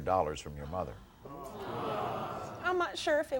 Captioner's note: audience gasping